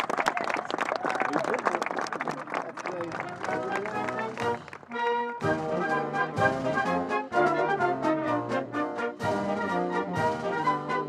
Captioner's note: applause